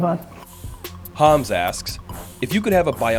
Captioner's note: voiceover